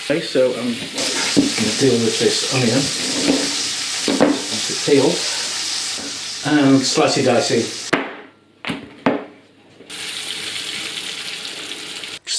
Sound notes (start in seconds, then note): 7.9 blam; 9.9 sizzlin